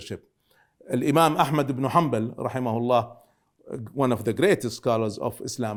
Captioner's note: speaking Arabic